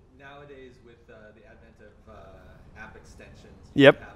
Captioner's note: voiceover